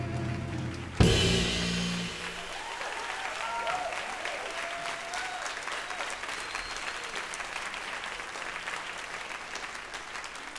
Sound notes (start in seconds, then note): 0.3 audience applauds; 2.9 audience cheers